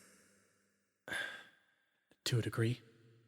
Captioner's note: Melinnyas Sigh